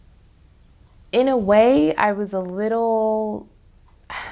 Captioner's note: sighs